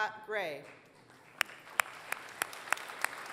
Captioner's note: applause